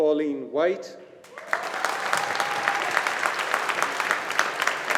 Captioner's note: audience applauding